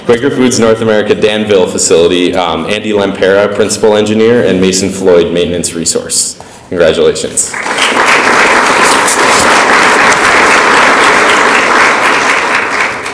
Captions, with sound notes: Quaker Foods, North America, Danville Facility Andy Lámpara, Principal Engineer and Mason Floyd, Maintenance Resource. Congratulations. (audience applauds)